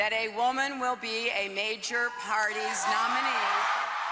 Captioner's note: wild applause